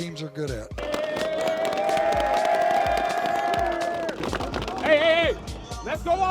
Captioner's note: cheering